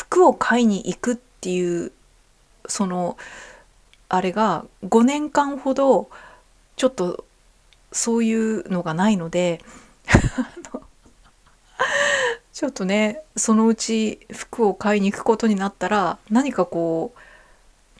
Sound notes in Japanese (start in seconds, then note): 10.9 笑い; 11.4 息をのむ音